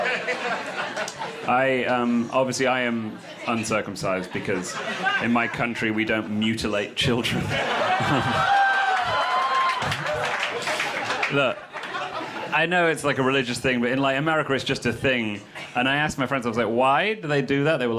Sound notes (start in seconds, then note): 0.0 crowd laughs; 7.4 crowd cheers